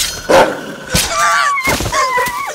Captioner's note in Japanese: 刺さる音